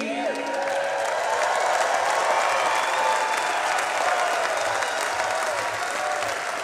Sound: audience cheering; audience clapping

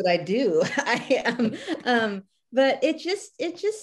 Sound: laughs

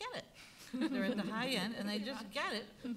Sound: laughing

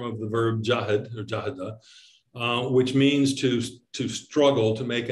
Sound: speaking in Arabic

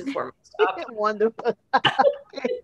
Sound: laughter

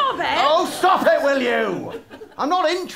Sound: non-plummy voice

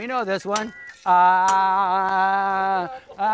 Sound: chanting

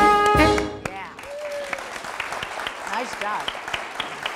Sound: audience applause

